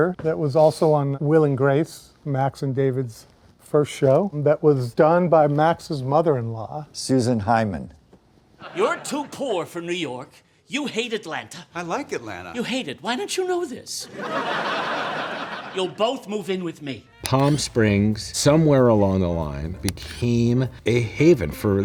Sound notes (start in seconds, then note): 14.1 audience laughs